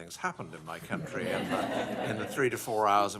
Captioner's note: laughter